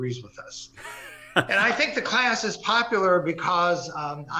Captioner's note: laugh